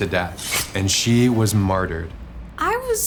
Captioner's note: knife clanking